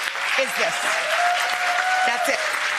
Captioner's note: audience cheering